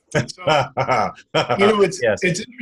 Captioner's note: laughing